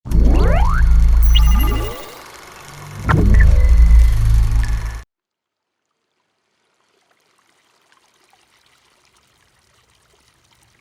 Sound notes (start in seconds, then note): 6.0 water flowing